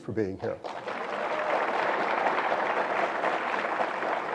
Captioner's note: audience applause